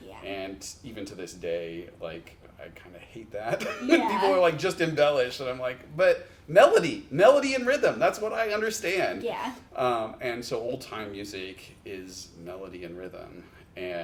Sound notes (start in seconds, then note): 3.5 chuckles